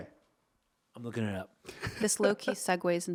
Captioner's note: laughing